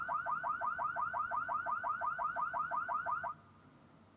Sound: car alarm blaring

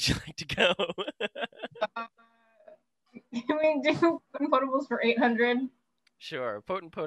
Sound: laughter

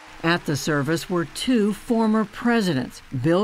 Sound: cheering and applause

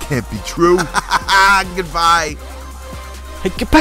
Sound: laughing

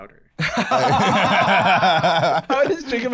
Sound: both laughing

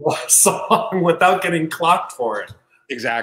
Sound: laughs

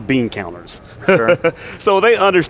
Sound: laughing

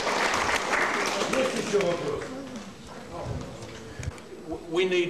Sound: non-english speech

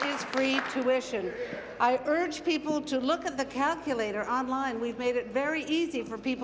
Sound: applause

